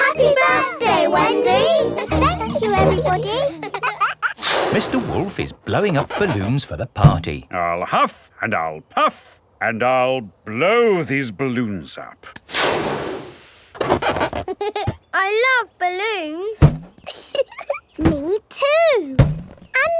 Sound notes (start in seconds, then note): 17.0 chuckles